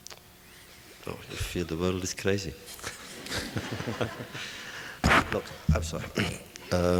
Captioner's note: laughter